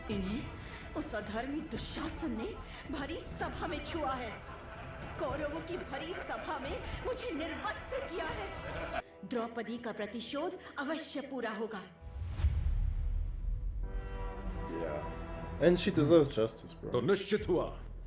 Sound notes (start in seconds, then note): 3.4 men laugh; 8.9 sinister men's laughter; 14.3 tense music playing